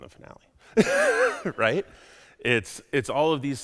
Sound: laughs

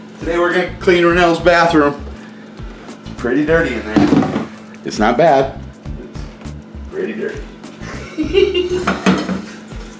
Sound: laughing

